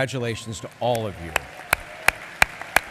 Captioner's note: applause